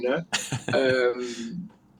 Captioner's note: laughs